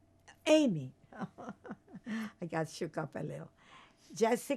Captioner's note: laughing